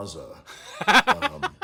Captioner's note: laughing